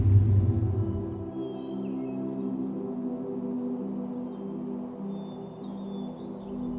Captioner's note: birds chirping; mellow music